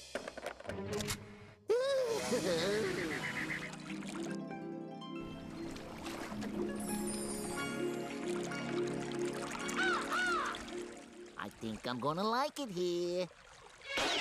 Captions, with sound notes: OOH! [water gurgling] [cawing] I THINK I'M GONNA LIKE IT HERE.